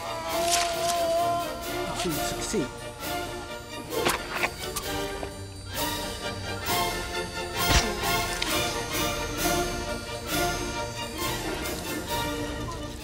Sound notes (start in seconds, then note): 0.0 moaning; 4.3 fleshy thunk; 5.8 lively instrumental music; 7.6 fleshy thunk; 9.2 lively instrumental music